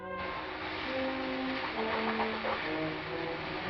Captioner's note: sizzling